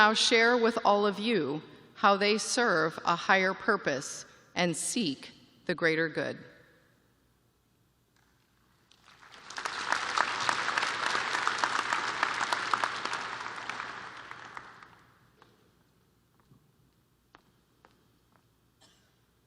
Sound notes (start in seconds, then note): 3.4 applause